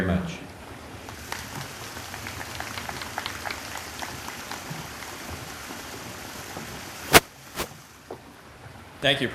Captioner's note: applause